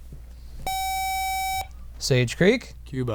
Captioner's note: buzzer